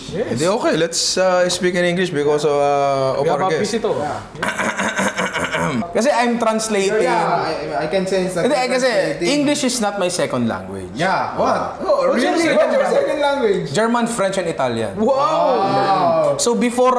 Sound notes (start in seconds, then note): 4.3 coughs